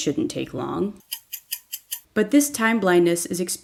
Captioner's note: clock ticking